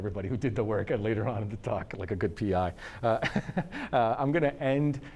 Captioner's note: laughs